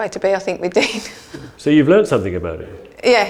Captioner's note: chuckles